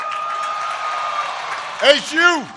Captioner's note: applause